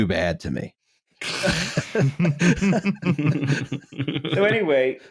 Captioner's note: laughter